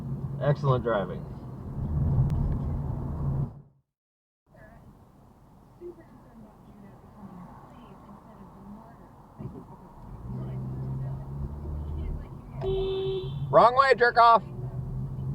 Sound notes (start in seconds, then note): 12.6 beeeeeP